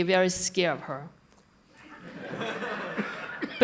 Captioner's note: laughter